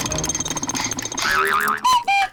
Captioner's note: panting; clock cuckoos